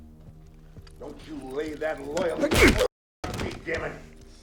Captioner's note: punch thuds